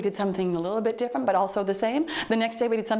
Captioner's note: timer beeps